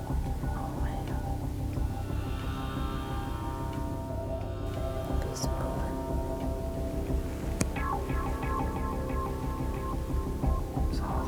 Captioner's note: whispering; whispering